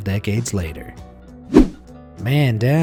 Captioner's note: image whooshing